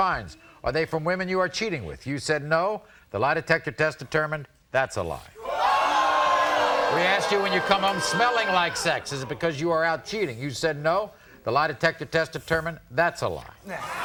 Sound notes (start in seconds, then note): 5.5 audience oohs